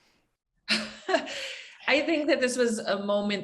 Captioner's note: chuckles